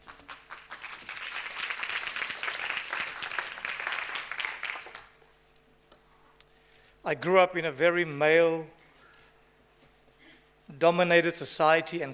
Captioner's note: applause